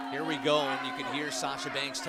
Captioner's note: bell rings